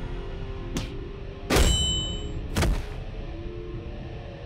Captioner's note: Slamming sound